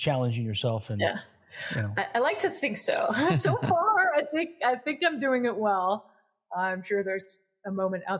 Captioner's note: laugh